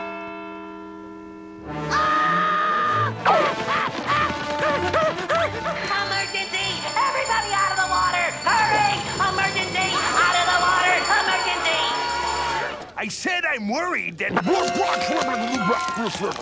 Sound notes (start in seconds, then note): 1.8 screaming